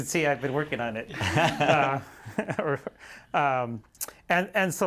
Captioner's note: laughter